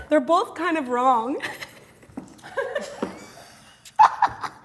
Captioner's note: laughing